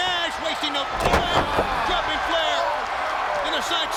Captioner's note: wrestlers thudding